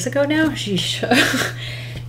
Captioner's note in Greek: Γέλια